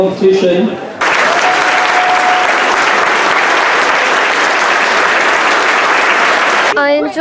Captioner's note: applause